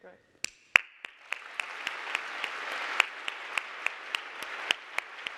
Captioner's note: audience applauding